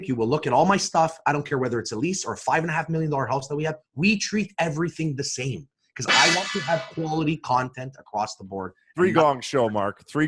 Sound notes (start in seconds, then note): 6.2 gong clangs